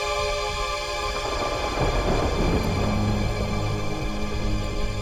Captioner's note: thunder rumbling